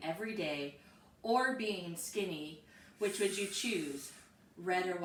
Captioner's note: inhales sharply